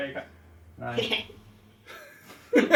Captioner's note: giggles